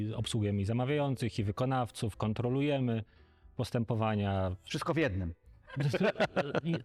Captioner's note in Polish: śmiech